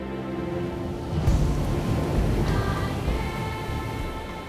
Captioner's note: waves crashing; tribal music